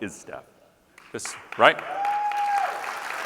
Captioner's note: audience cheering and clapping